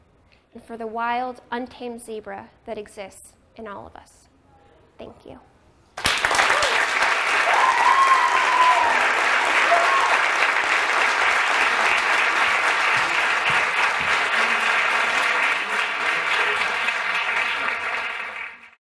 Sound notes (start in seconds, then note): 6.1 applause; 9.1 cheers